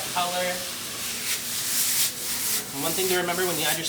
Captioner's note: ingredients sizzle and shuffle in the pan